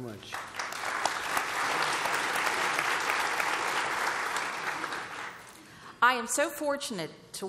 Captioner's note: applause